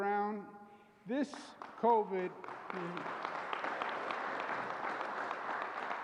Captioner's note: applause